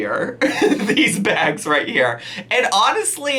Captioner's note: laughing